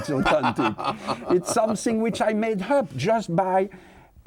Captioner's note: laughs